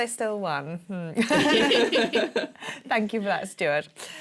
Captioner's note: laughter